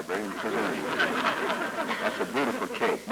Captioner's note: laughter